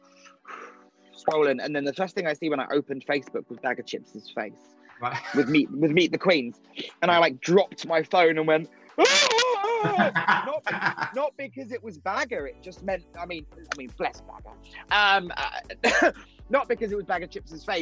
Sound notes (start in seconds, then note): 0.1 puffing; 8.9 yelling; 9.0 laughing